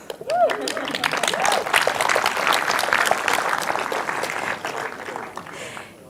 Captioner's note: audience applauds; audience cheers